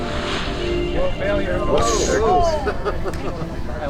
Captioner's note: exclaims